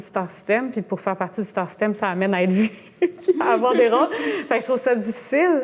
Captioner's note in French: rire